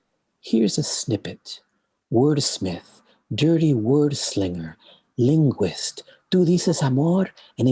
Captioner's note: foreign language